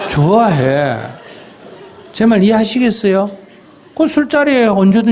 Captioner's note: audience Laughter